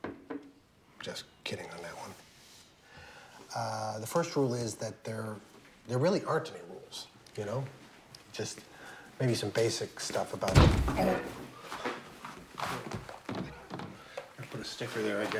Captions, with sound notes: JUST KIDDING ON THAT ONE. UH...THE FIRST RULE IS THAT THERE-- THERE REALLY AREN'T ANY RULES, YOU KNOW? JUST MAYBE SOME BASIC STUFF ABOUT-- [THUD] OH! [GLASS SQUEAKS] BETTER PUT A STICKER THERE, I GUESS.